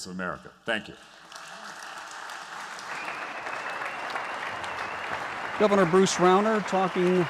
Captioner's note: applause